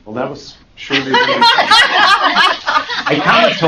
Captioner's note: laughter